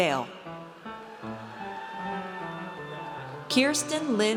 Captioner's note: audience cheers